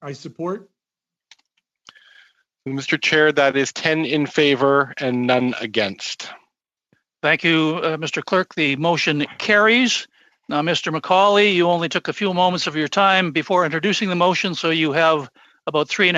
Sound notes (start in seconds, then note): 4.1 speaking French